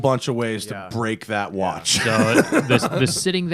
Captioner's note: laughter